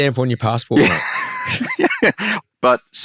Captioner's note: laughing